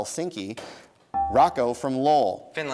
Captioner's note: dinging